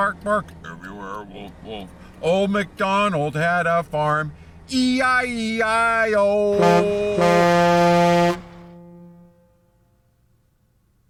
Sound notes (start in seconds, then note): 6.5 horn loudly honks